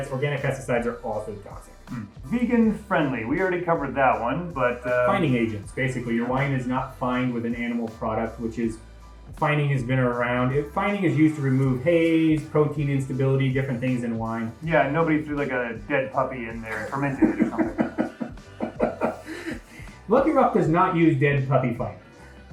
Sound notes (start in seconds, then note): 16.6 laughing